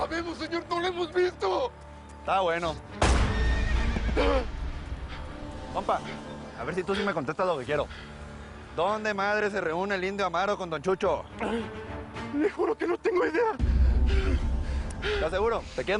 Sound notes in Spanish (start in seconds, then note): 3.4 Relinchos; 3.5 Disparos